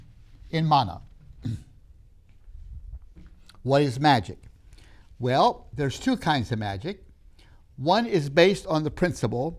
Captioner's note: clears throat